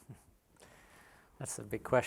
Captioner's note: laughs softly